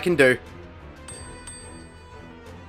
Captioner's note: retainer bell dings